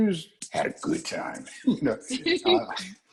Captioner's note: laugh